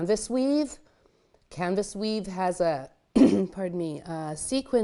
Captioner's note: clears throat